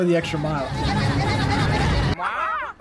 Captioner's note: seagulls squawking in different languages